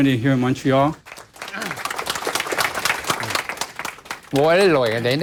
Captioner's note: applause